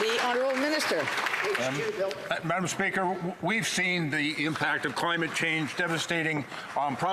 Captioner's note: some Applause